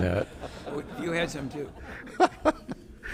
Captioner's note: all laughing